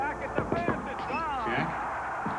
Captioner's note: knock at door